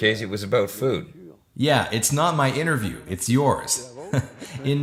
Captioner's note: laughs